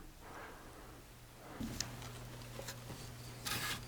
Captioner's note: footsteps